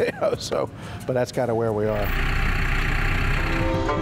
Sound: laughs

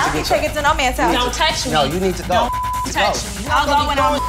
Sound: beep

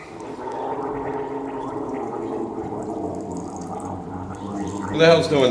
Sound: gargling sound

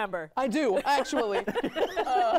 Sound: laughter

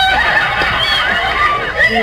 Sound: she mumbles for joy

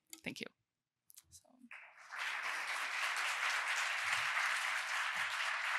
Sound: applause

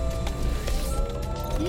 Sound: whiring

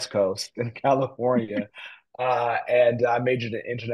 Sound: laughter

